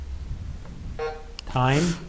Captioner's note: timer buzzing